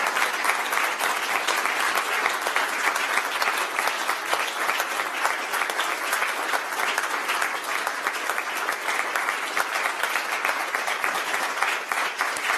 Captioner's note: applause